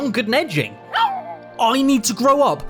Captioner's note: dog barks